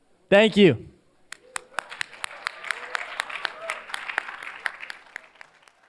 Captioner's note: applause